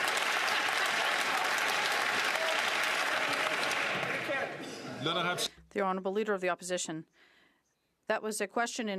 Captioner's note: some Applause